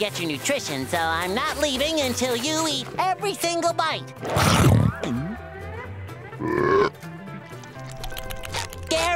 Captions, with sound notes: I've got to make sure you get your nutrition, so I'm not leaving until you eat every single bite. [chomps down] [burps]